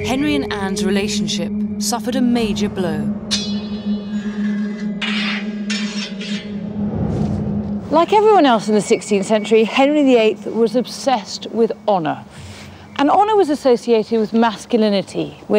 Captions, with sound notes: Henry and Anne's relationship suffered a major blow. (swords clang) Like everyone else in the 16th century, Henry VIII was obsessed with honor, and honor was associated with masculinity,